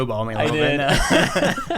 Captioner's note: laughs